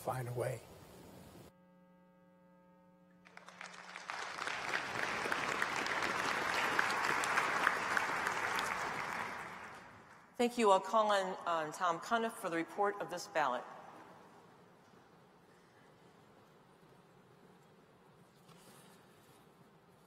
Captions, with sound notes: have the leaders to help us see those opportunities, then we have nothing to worry about. God will find a way. [ Applause ] >> Thank you. I'll call on Tom Cunniff for the report of this ballot.